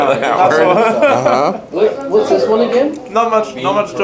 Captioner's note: laughter